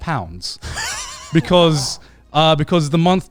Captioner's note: laughing